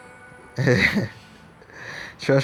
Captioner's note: laughing